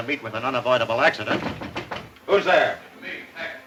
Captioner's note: knocking at door